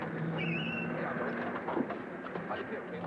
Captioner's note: tires squealing